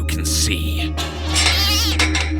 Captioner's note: scaffolding falls, cat screams